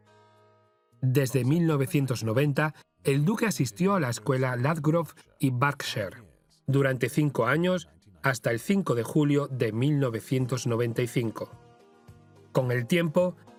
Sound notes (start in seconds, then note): 1.2 voiceover; 8.1 upbeat music